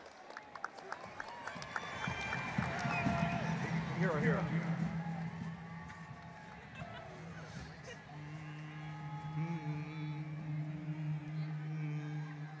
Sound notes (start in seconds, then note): 1.5 audience applauding and cheering; 8.4 men harmonizing